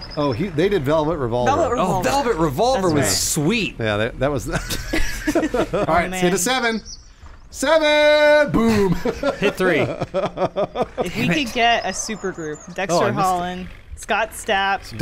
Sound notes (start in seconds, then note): 4.4 laughing; 8.5 laughing